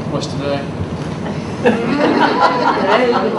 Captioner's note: audience laughs